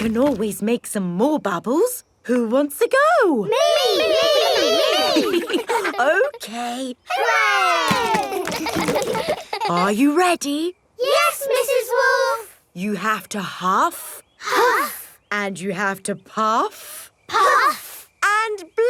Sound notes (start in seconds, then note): 7.9 chuckles; 8.8 kids laughing